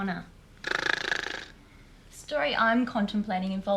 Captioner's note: John snorts